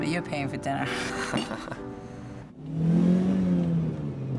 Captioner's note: laughing